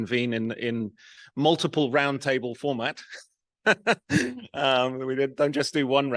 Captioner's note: laughs